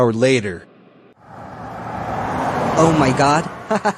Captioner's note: freight flightcraft flies; laughs crazily